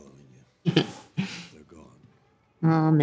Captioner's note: chuckles